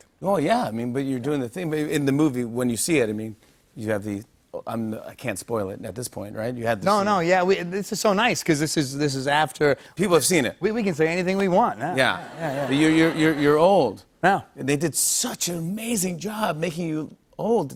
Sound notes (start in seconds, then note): 11.9 laughter